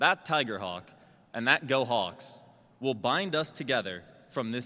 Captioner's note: none